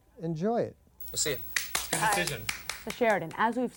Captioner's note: clapping